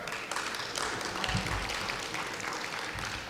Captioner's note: clapping